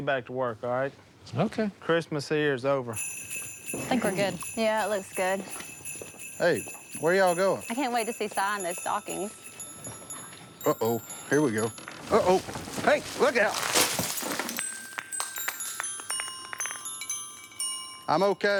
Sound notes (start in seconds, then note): 13.7 bulb shatters